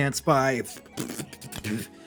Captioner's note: thinking noise